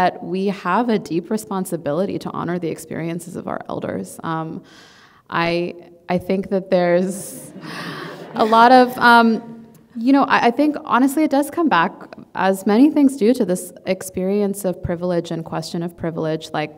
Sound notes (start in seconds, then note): 7.3 audience laughing